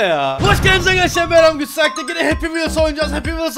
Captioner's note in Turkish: Patlama Sesi